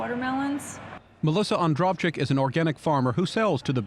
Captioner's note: voiceover